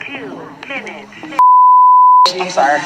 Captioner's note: beeping